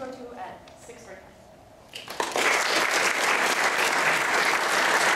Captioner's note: applause